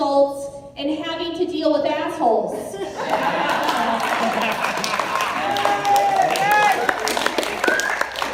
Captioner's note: laughter, applause, cheers